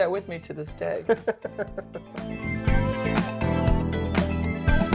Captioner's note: chuckling